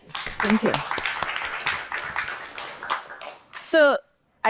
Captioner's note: audience applauds